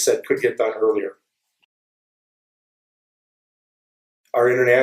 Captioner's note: silence